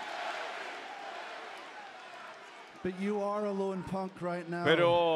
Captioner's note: applause